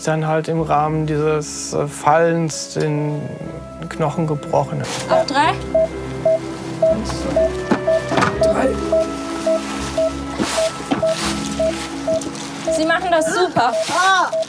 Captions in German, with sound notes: und hat sich dann im Rahmen dieses Fallens den Knochen gebrochen. Auf drei. Eins, zwei, drei. (Regelmäßiges Piepsen) Sie machen das super. - Ah!